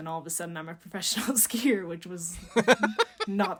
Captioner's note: laughing